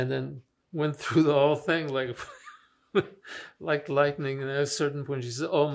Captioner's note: laughing